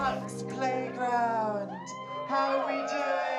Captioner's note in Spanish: vítores